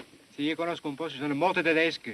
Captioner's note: speaking italian